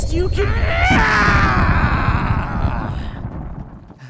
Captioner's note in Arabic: صراخ